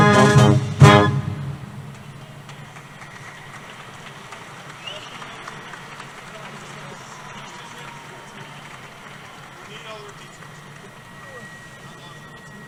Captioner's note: applause